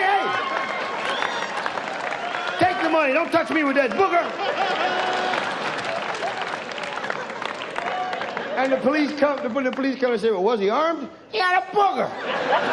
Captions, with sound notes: Hey, hey! (audience laughs) Take the money, don't touch me with that booger! (audience cheers) And when the police come they say, well, was he armed? He had a booger!